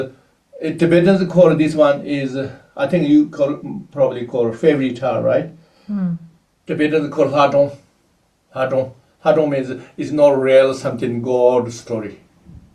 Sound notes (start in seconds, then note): 7.3 tibetan